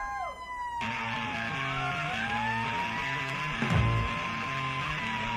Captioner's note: concert crowd noise; rock music